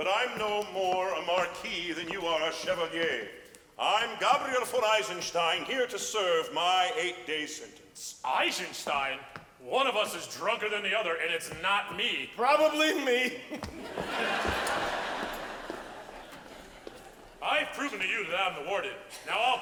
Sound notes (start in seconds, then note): 13.5 audience laughs